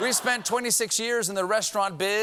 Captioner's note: laughter